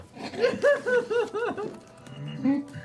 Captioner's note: laughing